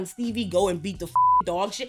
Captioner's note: beep